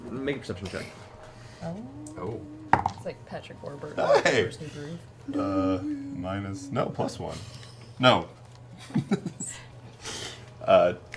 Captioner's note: laughs